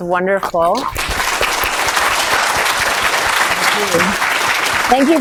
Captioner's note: audience clapping